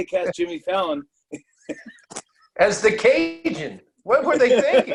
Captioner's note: laughs